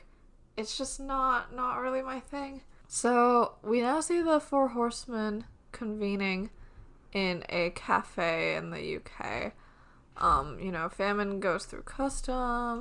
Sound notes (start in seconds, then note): none